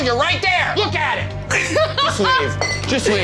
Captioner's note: laughs